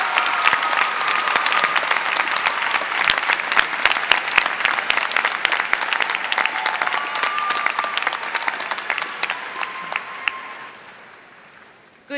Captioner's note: applause